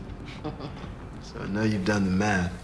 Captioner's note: chuckling